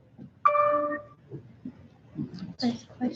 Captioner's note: computer dings